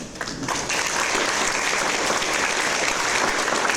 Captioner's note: audience applause